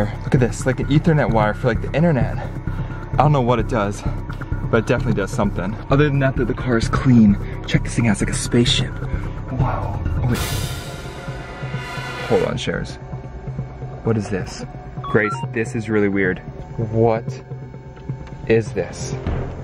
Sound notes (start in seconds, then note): 8.8 dramatic music; 15.0 digital beeps